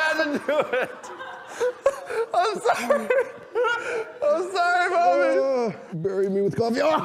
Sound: still laughing

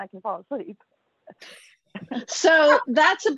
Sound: laughter

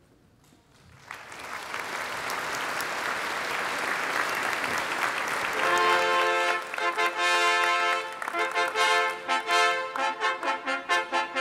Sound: applause

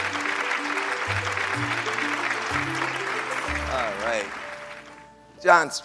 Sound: audience clapping

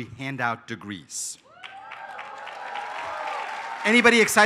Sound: applause

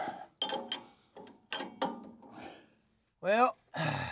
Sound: metal clanking

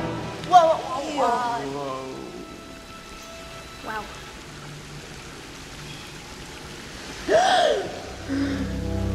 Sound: gasps

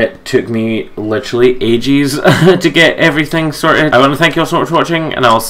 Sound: laughs

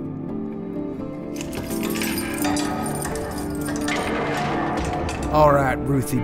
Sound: cell doors closing

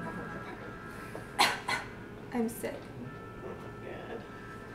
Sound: fake coughs

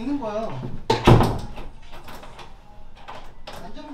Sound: the door closes

